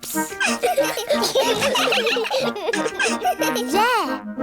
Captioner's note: all giggling